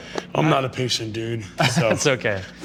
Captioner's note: laughs